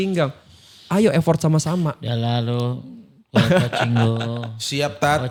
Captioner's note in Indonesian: tertawa